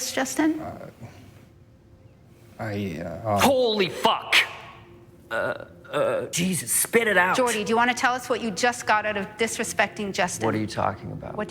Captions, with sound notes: Yes, Justin? I, uh... Holy fuck! [mock stuttering] Jesus! Spit it out! Jordy, do you want to tell us what you just got out of disrespecting Justin? What are you talking about?